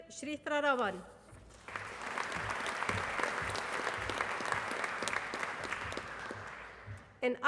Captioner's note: applause